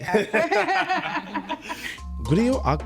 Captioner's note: laughing